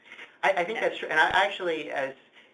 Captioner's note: voiceover